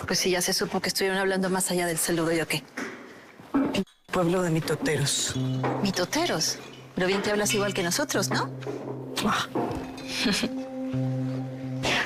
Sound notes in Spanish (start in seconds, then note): 10.2 Risas